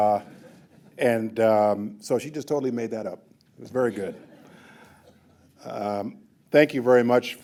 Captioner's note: laughter